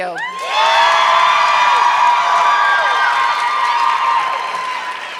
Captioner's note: audience clapping